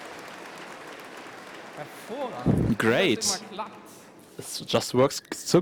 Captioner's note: applause